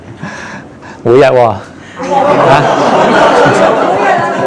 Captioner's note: laughing